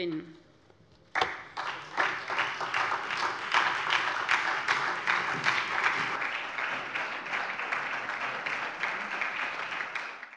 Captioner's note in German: Beifall SPD und vereinzelt BÜNDNIS 90/DIE GRÜNEN